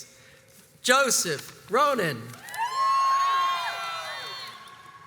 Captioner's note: crowds cheers and applauds